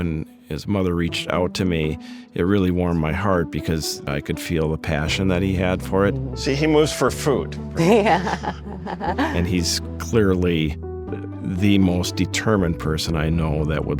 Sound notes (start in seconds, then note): 7.8 laughing